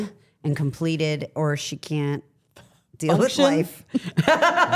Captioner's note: laughs